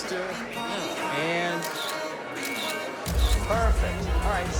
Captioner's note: camera clicks